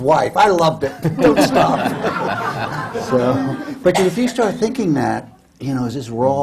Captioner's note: laughter